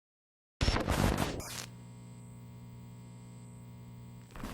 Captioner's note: static crackling